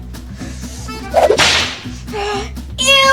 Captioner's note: snap